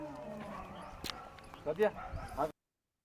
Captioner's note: non-english